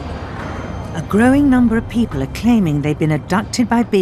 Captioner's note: voiceover